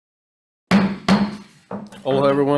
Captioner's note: gavel bangs